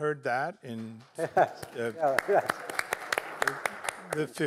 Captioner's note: clapping